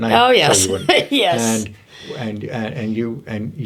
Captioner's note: laughs